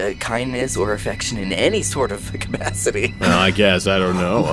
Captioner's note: laughs